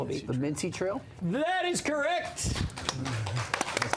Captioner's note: applause